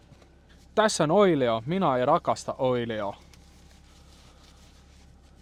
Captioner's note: in Finnish